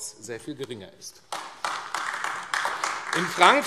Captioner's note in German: Beifall AfD